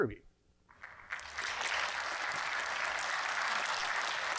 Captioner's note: applauds